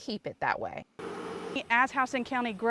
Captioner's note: nat sound of machinery